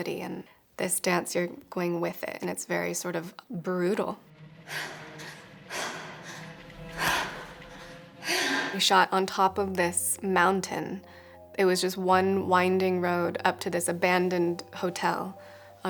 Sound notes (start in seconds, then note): 4.6 dancer sighing